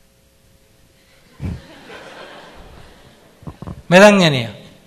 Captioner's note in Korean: 청중 웃음